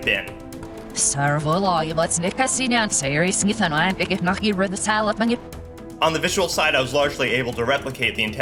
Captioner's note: horrible backwards noises lmao